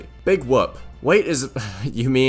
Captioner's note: laughs